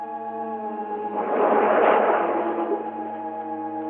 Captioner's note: waves crashing